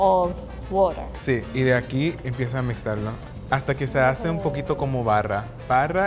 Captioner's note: speaking Spanish